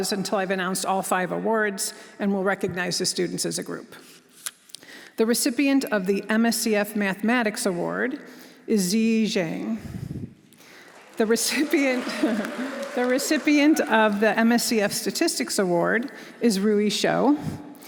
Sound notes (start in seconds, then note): 10.6 audience applauding; 11.7 chuckles